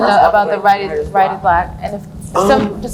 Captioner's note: laughs